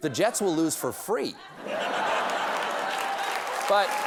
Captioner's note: laughter; applause